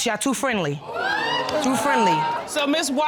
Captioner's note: audience exclaiming